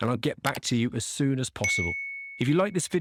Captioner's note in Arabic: قرع الجرس